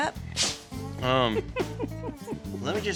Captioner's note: giggling